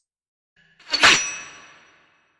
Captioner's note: swords sheathe